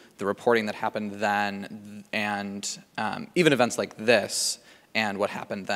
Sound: none

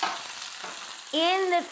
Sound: plate clangs

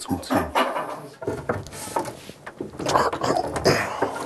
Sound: he groans

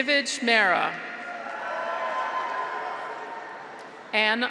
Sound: graduates cheer

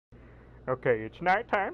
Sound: breth

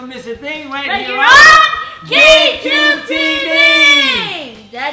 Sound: in Unison

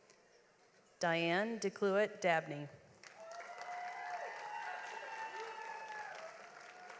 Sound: audience applauds

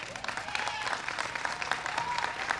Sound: applause

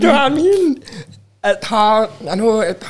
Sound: chuckles

